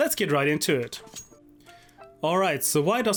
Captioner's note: knife unsheathing